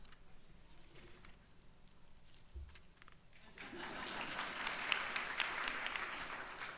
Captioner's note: crowd laughs